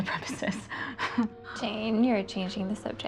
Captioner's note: Jane laughing